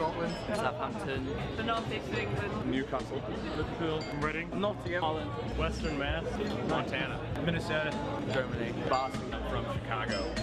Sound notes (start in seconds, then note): 0.2 voiceover